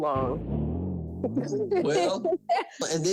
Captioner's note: chuckling